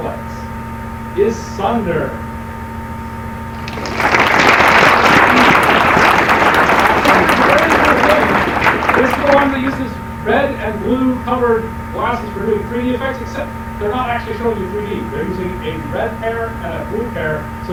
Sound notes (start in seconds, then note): 3.5 applause